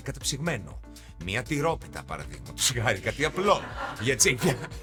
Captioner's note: laughs